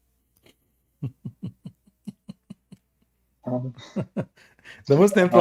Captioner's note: Ketawa